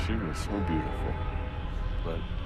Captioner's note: baby screaming